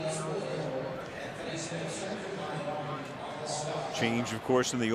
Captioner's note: pa announcement